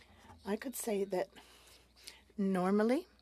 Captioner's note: speaking French